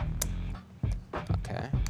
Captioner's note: shears snapping